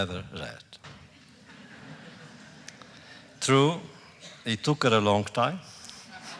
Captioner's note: laughter